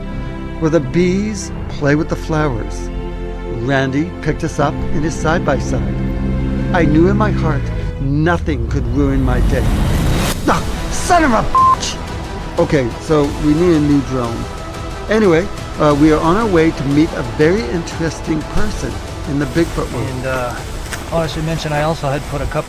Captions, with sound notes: where the bees play with the flowers. Randy picked us up in his side by side. I knew in my heart nothing could ruin my day. (intensifying music) Ah, son of a (beep). Okay, so we need a new drone. Anyway, we are on our way to meet a very interesting person in the Bigfoot world. - And, uh, oh, I should mention I also had put